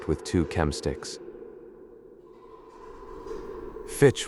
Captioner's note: exterior wind rises